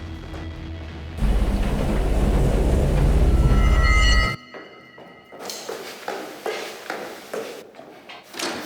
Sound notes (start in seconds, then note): 1.2 loud machines; 6.0 footsteps